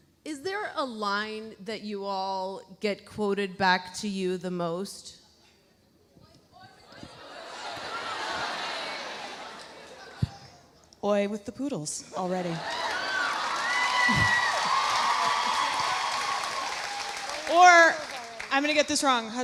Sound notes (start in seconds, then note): 12.4 audience cheering; 12.6 audience applauding; 15.2 applauding drowns out Kelly's speech